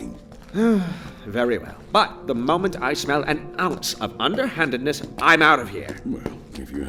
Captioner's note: sigh